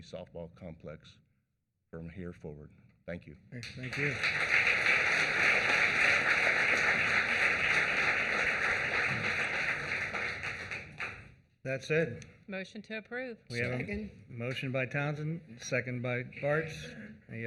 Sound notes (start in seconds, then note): 11.2 applause